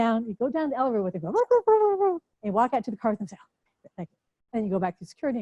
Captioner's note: chattering